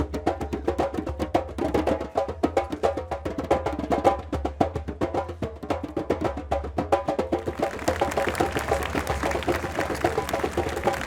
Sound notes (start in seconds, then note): 5.5 applause